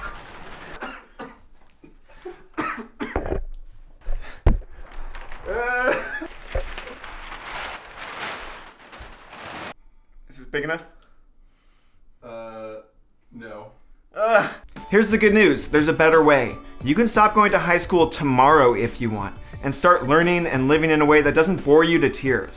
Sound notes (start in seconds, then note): 5.5 exclamation of alarm